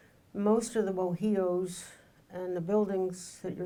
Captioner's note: speaking in foreign language